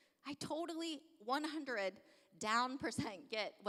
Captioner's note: none